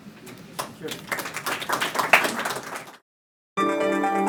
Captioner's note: audience applauding; bright electronic music